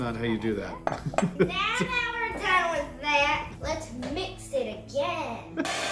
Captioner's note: laugh